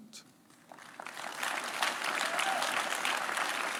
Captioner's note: applause